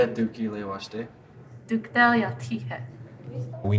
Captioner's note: student speaking Lakota